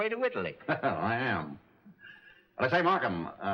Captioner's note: laughs